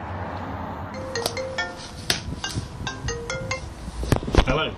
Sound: phone rings

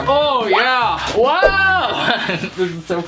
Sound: laughs

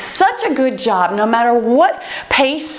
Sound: timer beeps

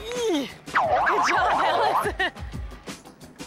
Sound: laughing

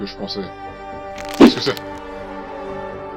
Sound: crackle

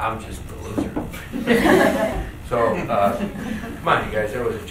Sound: group laughs

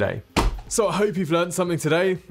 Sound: smacks

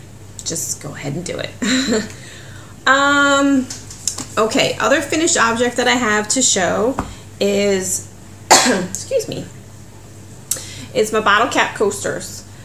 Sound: coughs

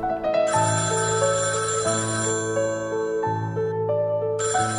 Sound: phone ringing

